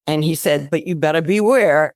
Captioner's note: none